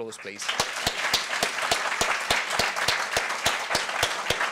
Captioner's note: applause